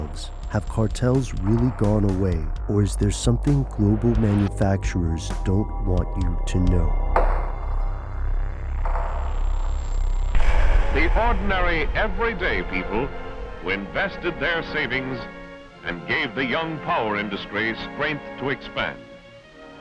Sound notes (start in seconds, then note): 7.0 eerie music; 11.0 voiceover